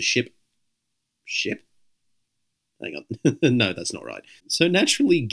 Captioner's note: chuckles